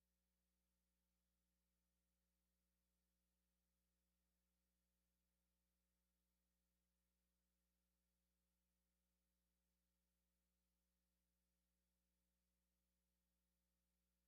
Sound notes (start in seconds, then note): none